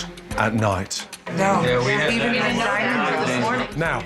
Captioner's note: guests speaking loudly